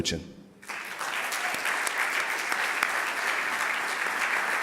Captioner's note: audience applauding